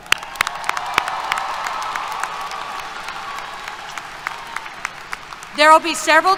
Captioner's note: applause, Cheers